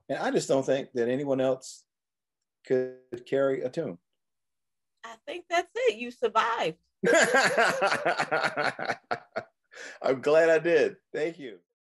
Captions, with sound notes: and I just don't think that anyone else could carry a tune. - I think that's it, you survived. (laughing) - I'm glad I did, thank you.